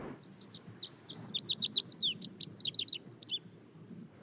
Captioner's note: bird singing